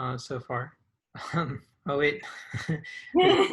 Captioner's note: chuckles; both laugh